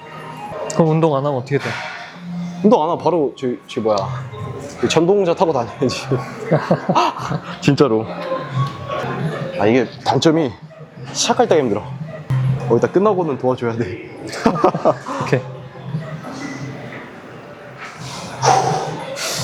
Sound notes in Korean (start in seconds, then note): 14.2 웃음